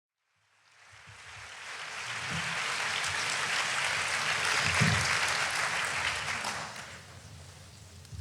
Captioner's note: applause